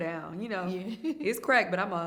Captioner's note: chuckles